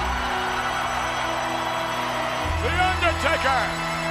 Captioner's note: audience cheers; ominous music